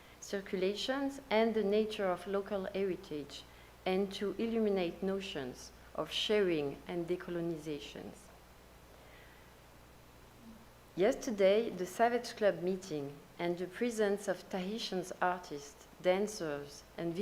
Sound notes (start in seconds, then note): none